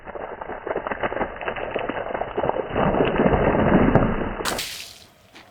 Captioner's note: water landing